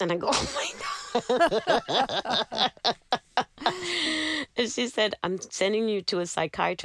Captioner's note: laughter